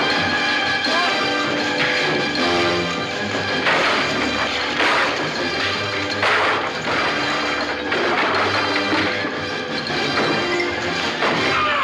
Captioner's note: SCREAMlNG